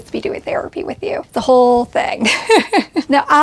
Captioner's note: chuckles